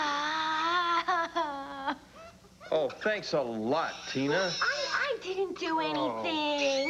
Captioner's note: baby cries